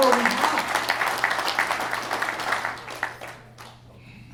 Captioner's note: applause